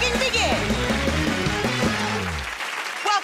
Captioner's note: cheers and applause